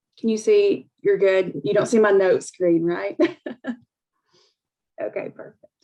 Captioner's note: laughs